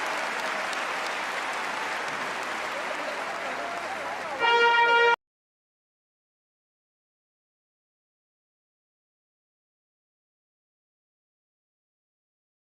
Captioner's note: cheers and applause